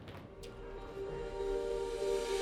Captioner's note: doors shutting; light music